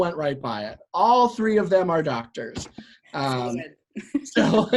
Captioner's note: laugh